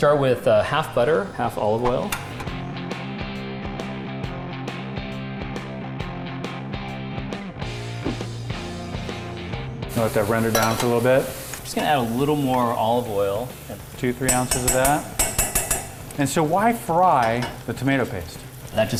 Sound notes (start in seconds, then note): 2.0 air whooshes; 3.0 upbeat guitar; 8.2 air whooshes; 14.2 spoon tapping on pot